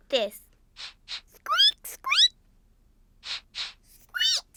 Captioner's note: sniffs and squeaks; both sniff and squeak